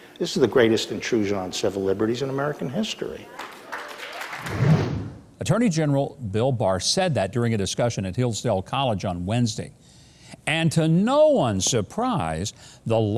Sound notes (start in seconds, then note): 3.3 crowd cheering and clapping; 4.4 air whooshing